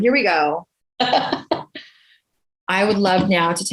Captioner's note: laughs